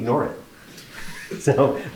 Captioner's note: laughter